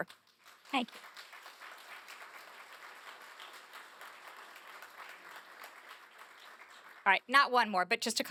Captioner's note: applause